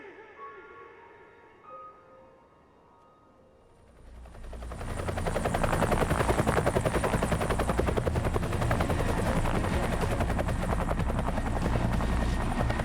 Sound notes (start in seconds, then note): 3.3 chop-chop of helicopter blades